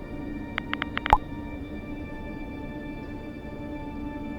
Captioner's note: typing sound